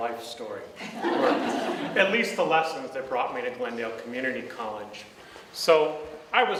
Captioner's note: audience laughs